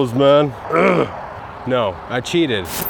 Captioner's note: speaker grunts